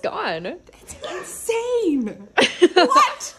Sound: laughing

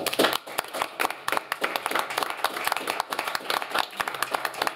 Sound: applause

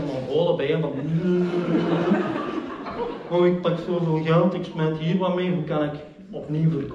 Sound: laughter

